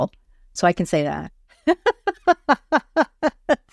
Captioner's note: laughs